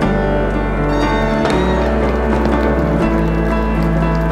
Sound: applause

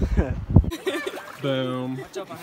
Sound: laughter

